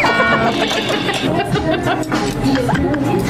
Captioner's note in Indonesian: Ketawa